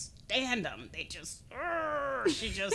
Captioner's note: laughing; growling